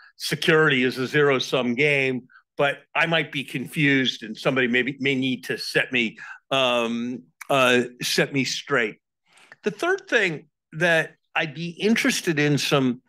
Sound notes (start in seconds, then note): none